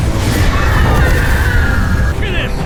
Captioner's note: loud scream